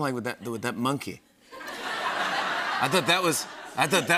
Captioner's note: laughter